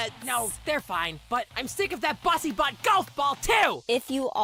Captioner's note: none